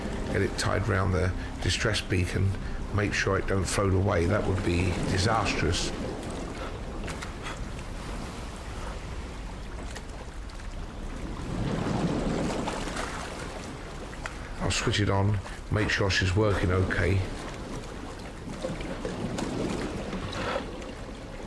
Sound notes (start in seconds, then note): 6.5 panting; 8.7 water sploshing; 18.6 water burbling